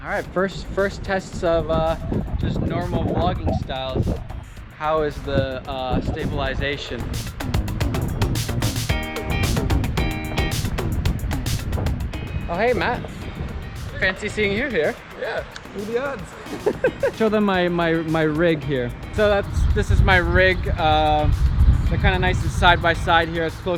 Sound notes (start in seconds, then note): 7.1 upbeat music; 16.2 laughing